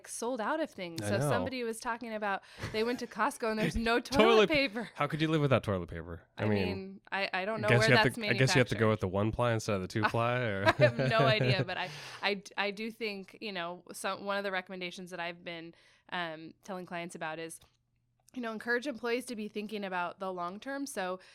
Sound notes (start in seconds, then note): 10.0 laughs